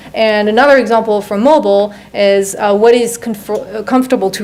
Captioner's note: none